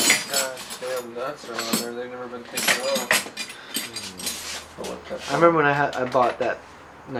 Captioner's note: speaker drowned out by metal clanging